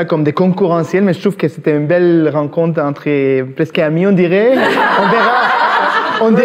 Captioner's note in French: rires